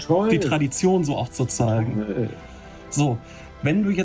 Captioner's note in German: spricht in einer Fremdsprache